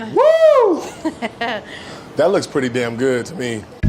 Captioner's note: laughs